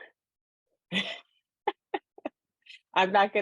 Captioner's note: laughs